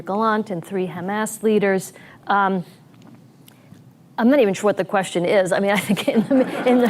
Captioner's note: laughter